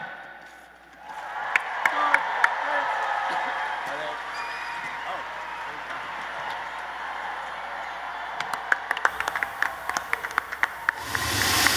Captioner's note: applause